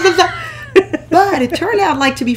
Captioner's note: nervous noises